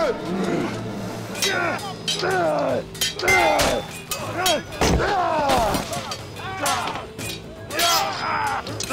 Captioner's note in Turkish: Dövüş sesleri